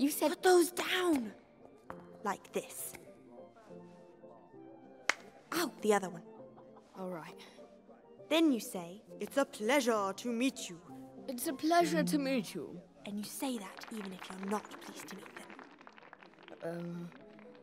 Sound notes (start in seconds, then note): 12.9 whispering